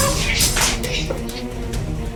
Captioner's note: smack